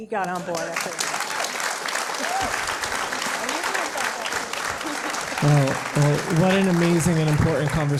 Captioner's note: applause